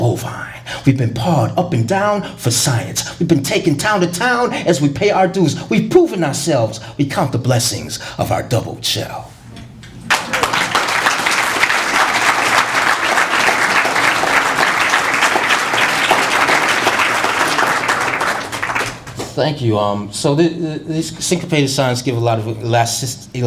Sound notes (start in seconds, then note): 8.4 applause